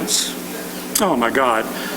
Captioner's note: chuckling